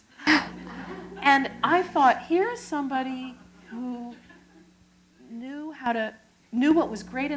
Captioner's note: chuckle